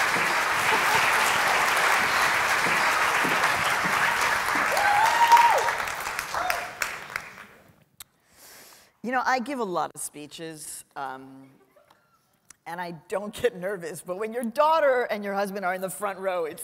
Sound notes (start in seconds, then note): 4.5 cheering; 12.2 chuckling